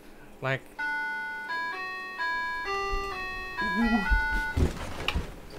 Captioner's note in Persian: دینگ دانگ